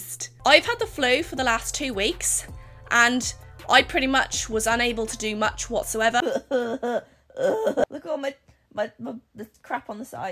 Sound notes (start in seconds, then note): 7.3 fake crying